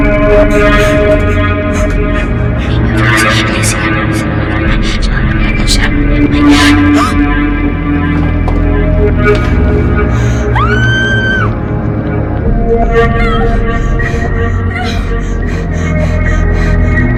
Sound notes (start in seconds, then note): 3.1 whispering; 7.1 Tiffany gasps; 10.5 screaming